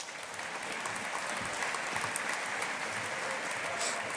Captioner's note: audience applauding